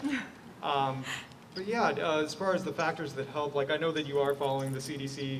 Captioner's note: laughter